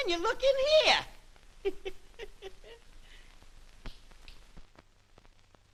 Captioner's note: laughs